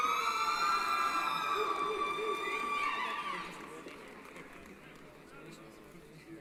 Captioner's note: cheering